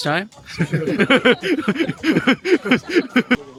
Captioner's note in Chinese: 笑聲